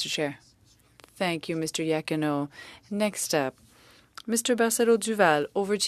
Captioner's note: speaking French